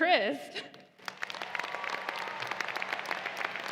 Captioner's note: applause